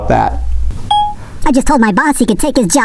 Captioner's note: phone beeping